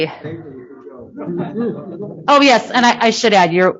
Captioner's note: background chatter